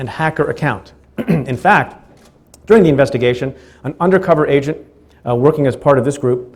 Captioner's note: clears throat